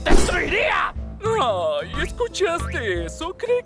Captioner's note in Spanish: Burlescamente